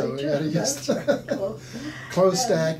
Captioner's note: laughing